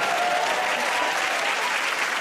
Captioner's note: cheers and applause